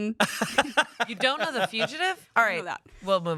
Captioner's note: laughs